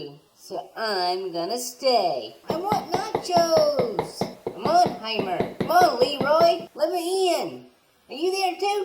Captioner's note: knockin on door